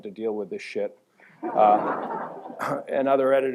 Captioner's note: laughter